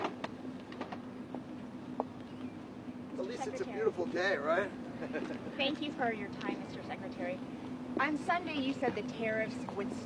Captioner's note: indistinct chatter